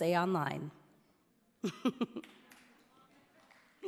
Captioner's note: chuckles